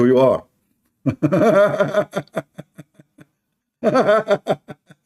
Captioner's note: Ketawa